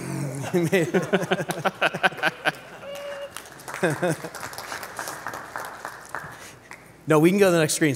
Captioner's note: laughs